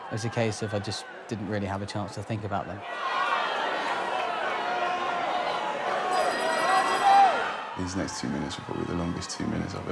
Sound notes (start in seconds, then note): 6.1 bell rings